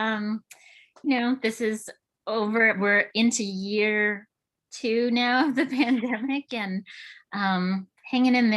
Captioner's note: chuckles